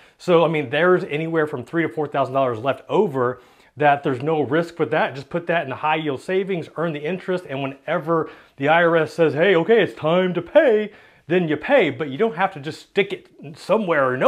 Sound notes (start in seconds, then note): none